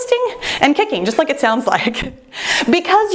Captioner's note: laughs